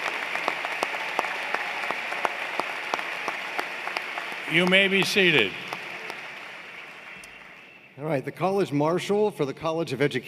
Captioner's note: applause